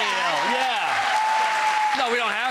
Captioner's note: cheering